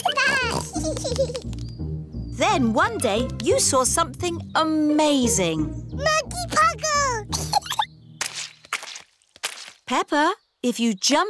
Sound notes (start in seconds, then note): 0.6 both giggling; 7.3 giggles